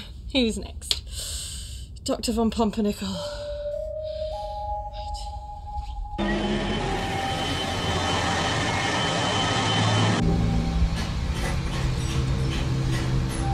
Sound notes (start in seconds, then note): 3.4 dramatic music; 6.2 engine roars; 10.5 dramatic music